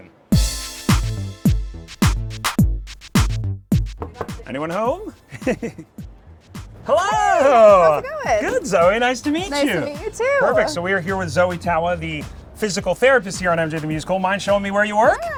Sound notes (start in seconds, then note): 0.1 upbeat music; 5.0 laughs